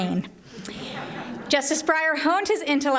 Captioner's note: laughter